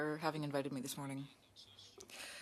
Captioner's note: speaking French